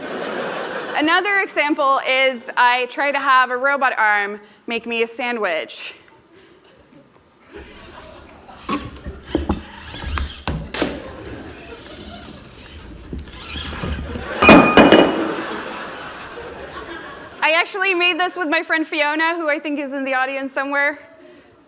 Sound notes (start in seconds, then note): 0.0 laughter; 5.3 laughter; 5.3 thumps and sound of glass falling